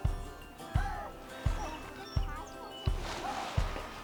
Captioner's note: birds chirping